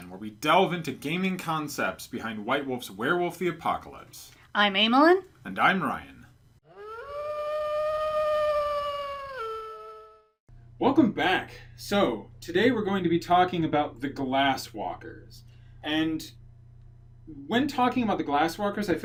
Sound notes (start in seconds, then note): 6.6 wolf howl